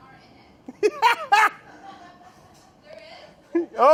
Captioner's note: laughing